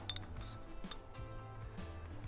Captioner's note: bottle clinks; upbeat music